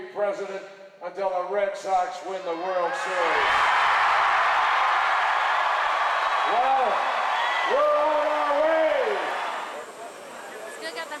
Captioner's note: crowd roars in background